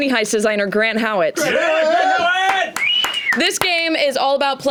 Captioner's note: cheering